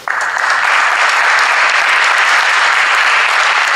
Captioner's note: audience applauds